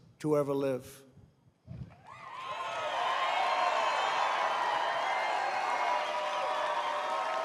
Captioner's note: applause